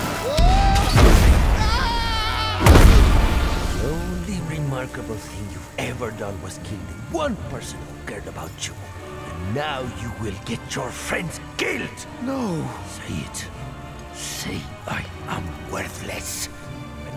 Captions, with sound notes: -[screams, grunts] -[slams] -[screams, grunts] -[slams] The only remarkable thing you've ever done was kill the one person who cared about you. And now you will get your friends killed. -No. -Say it. -Say "I am worthless." -[suspenseful music playing]